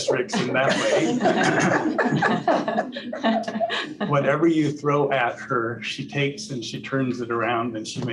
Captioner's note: laughter